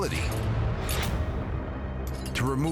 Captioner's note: clinks